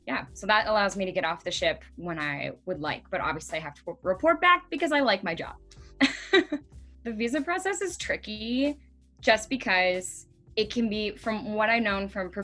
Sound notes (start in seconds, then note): 6.0 laughing